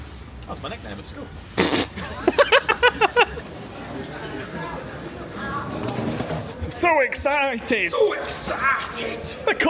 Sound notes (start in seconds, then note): 1.6 snickers and cackles